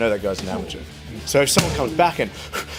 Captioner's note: fast breathing